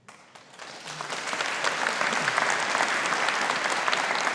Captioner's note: audience applauding